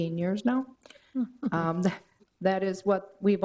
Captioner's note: chuckle